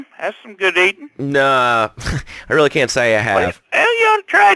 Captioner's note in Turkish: gülüyor